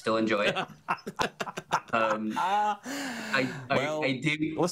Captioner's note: laughing together